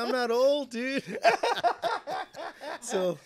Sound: both laughing

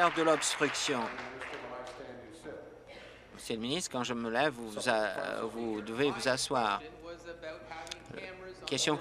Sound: applause

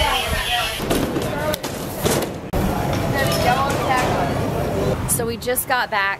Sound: luggage shifting on the belt

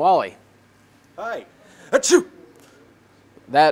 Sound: sneeze

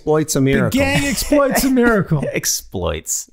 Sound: Glenn laughing

